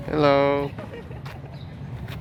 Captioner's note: VOLUNTEER laughs